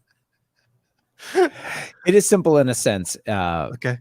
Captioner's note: laughing